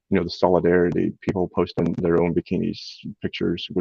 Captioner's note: none